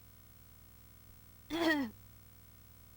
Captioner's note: cough